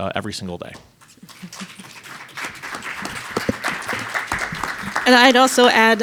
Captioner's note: audience applauds